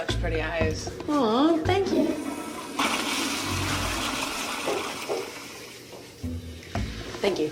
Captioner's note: toilet flushing